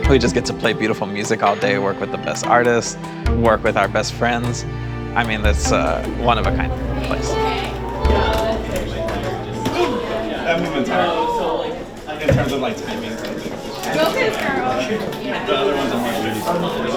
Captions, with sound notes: We just get to play beautiful music all day, work with the best artists, work with our best friends. I mean, it's a one-of-a-kind place. (people chattering)